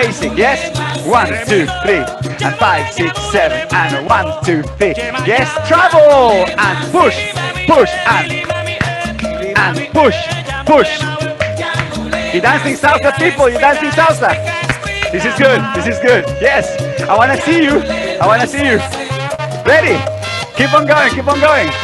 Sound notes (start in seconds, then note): 7.7 clap, clap, clap; 14.6 clap, clap, clap